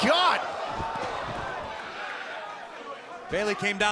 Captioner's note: crowd cheering